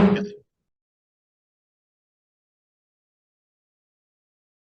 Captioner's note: gavel bangs